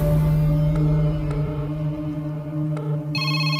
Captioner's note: Line ringing; Phone rings